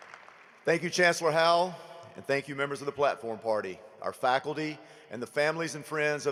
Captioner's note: applause